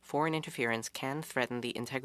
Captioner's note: speaking French